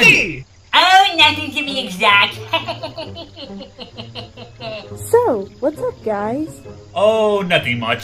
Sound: chuckles nervously

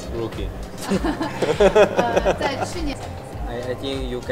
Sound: everyone laughs

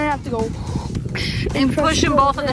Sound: whooshing sound

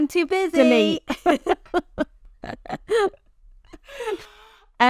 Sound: both laughing

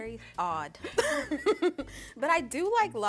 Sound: both laughing

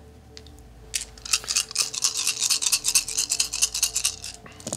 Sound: dice rattling

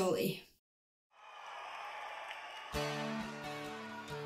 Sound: audience cheering; gentle music

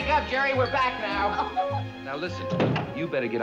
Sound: laughs

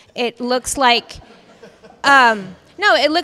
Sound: panel laughs

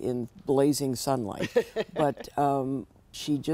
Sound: laughter

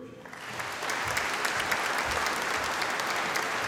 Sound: audience applauding

